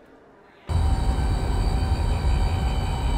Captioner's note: processed sound of cotton gin motor